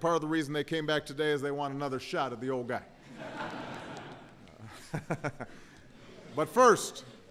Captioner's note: laughter